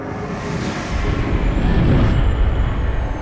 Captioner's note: loud whoosh